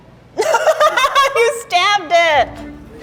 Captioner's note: laughing